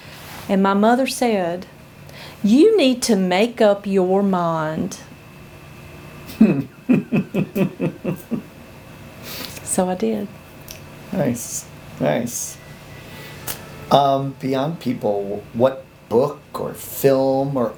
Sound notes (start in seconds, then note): 6.3 laughs